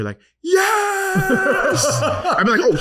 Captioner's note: laughing